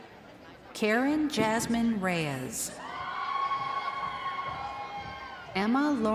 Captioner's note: crowd cheering